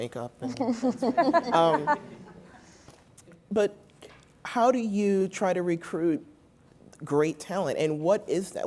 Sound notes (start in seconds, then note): 0.5 laugh